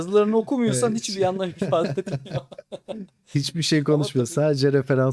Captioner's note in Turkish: kahkaha